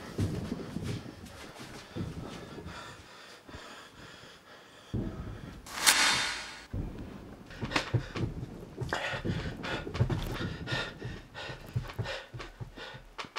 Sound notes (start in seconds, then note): 7.6 panting